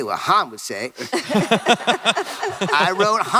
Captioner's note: laughter